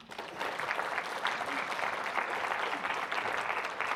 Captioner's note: audience applauding